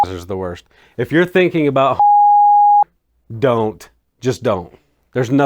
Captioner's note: beep